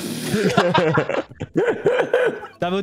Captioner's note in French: rires